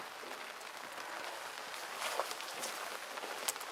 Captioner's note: rain pattering